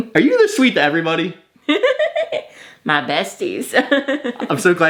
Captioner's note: laughs